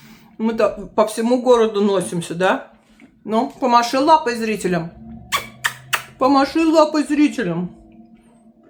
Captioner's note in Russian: фыркает